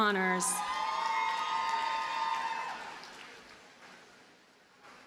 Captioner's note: audience cheers and applauds